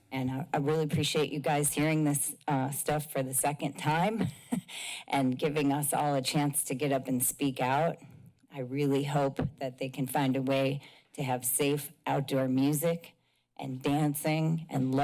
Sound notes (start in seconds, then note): 4.1 chuckles